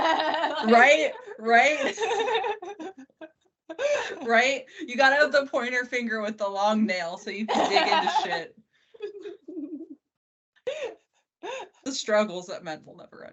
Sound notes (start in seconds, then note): 4.3 both laughing